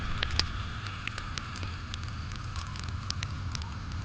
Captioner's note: fire crackling